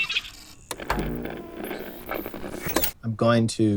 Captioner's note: vinyl record turns quietly; radio tuning; blended sound effects